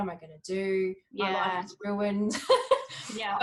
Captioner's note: laughs